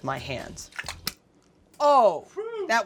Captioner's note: splashing